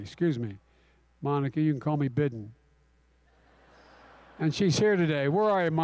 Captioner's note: laughter